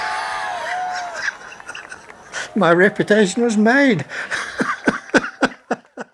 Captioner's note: laughs